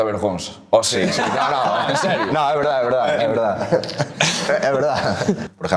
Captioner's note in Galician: risas